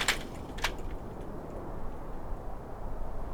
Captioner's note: latch clicks